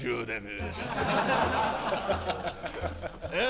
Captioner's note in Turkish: Gülme sesleri